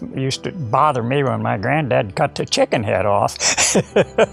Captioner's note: laughs